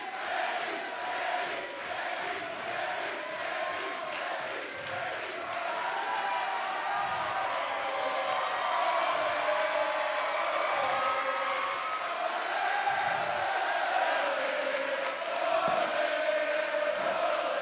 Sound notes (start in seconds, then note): 6.0 crowd cheering; 8.5 crowd singing